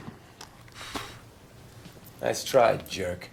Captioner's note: blows